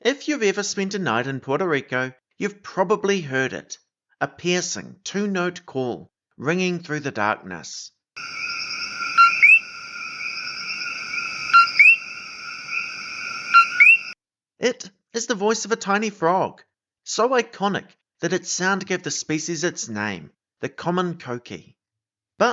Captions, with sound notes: If you’ve ever spent a night in Puerto Rico, you’ve probably heard it. A piercing, two-note call ringing through the darkness [pause to play coquí sound]. It is the voice of a tiny frog – so iconic that its sound gave the species its name: the common coquí.